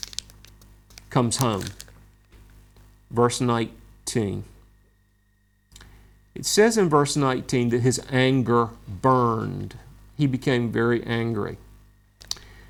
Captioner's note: smacks lips